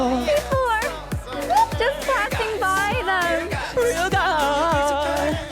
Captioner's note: sound of walking past indifferently